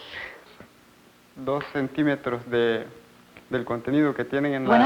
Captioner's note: speaking Spanish